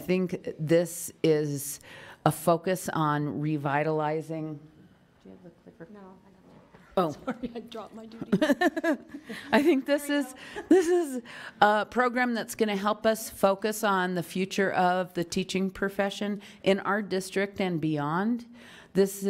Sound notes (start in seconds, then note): 8.2 laughs